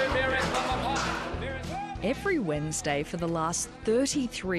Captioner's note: auction ambience